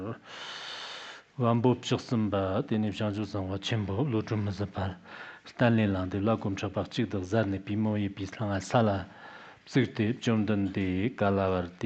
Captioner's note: giving oral transmission in Tibetan